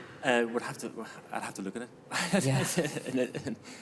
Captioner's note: chuckles